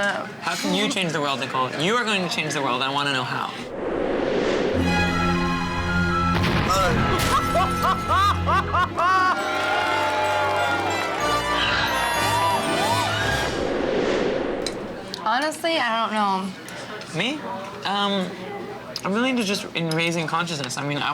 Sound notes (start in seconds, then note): 4.4 menacing music; 6.2 explosion; 8.8 cheers